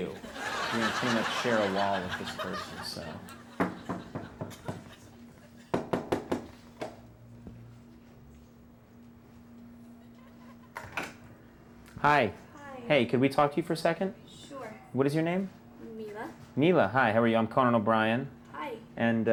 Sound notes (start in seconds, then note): 3.6 knocking